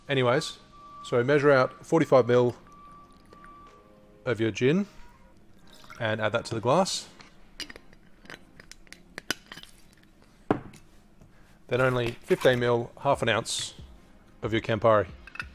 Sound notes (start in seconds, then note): 10.4 bottle thuds